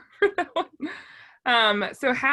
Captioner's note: laughs